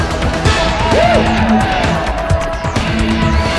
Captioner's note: whip cracks